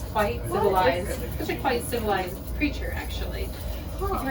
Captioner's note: chitter chatter